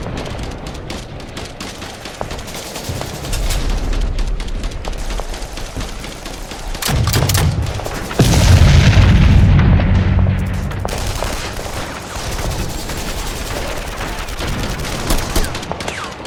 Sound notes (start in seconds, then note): 3.2 gun clicks; 6.6 gun blasts; 6.8 explosion booms; 10.9 guns blasting